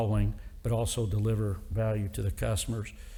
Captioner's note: none